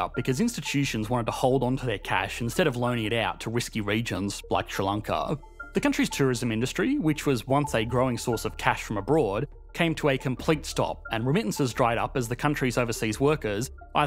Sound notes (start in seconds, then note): none